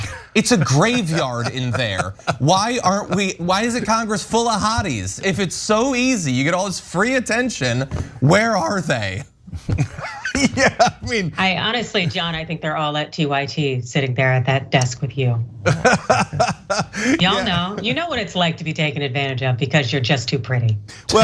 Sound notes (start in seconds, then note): 9.5 laugh; 15.6 laugh